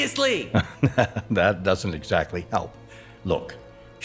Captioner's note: laughs